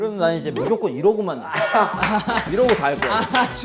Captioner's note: laughing